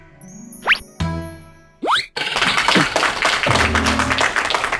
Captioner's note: people clapping